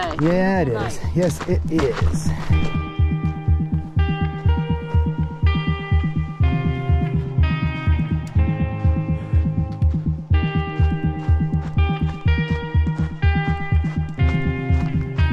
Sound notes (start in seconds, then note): 4.6 footsteps crunching